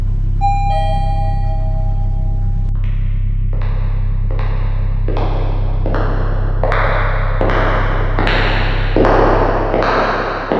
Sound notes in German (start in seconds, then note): 0.4 Dingdong; 3.5 Immer lauter werdende Schritte